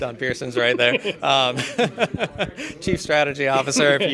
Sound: laughing

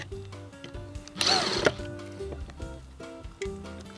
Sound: upbeat music; drilling

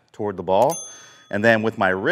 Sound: bell rings

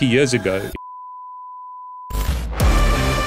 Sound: continuous beeping; upbeat music

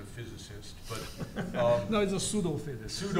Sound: laughs

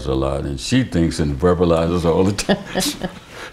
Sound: laughter

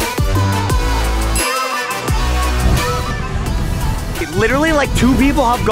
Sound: bell dings

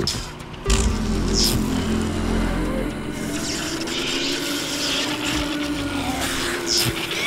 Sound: electricity buzzing; zombies grumbling

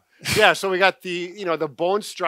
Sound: chuckling

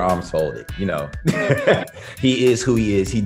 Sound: laughs

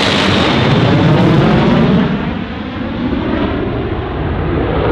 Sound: plane engine roaring

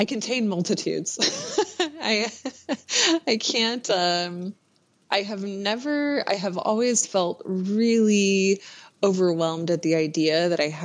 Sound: laughs

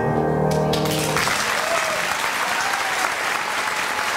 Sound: applause

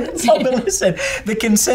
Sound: laughing

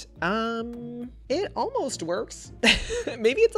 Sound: laughs

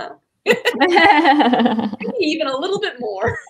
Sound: laugh

